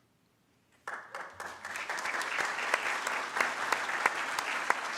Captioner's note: audience claps